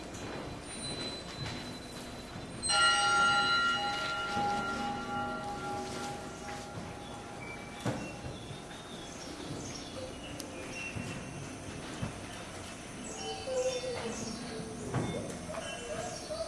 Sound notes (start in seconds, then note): 2.7 bell chimes; 13.6 actor humming